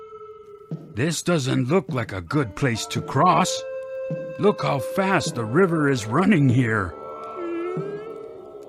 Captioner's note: whimpering